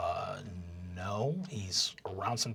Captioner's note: deep voice